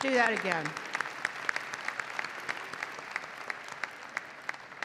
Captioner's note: audience applauding